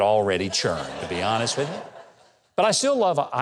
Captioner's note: audience laughing